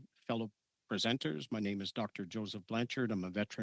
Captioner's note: speaking in French